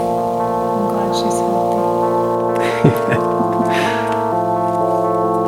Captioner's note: laughter